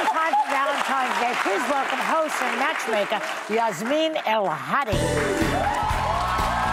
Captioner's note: cheers and applause